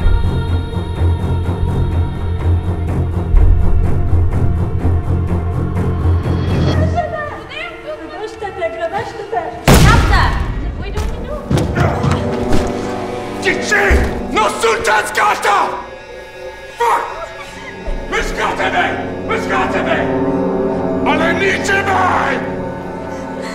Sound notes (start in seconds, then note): 6.7 speaking foreign language; 13.3 yelling in foreign language; 20.9 yelling in foreign language